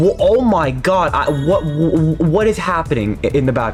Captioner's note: confusion Sounds